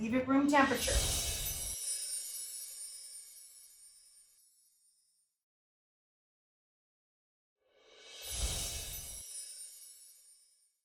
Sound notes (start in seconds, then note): 0.7 bells chiming; 8.7 bells chiming